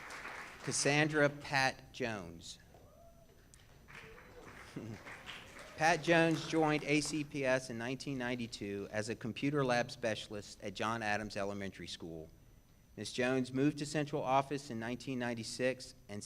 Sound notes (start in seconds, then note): 3.6 audience applauds and cheers